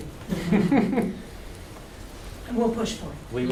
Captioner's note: laughter